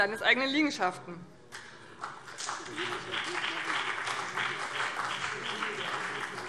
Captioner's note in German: Beifall BÜNDNIS 90/DIE GRÜNEN und CDU